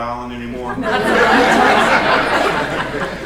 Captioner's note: laughter